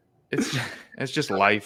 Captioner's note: laughs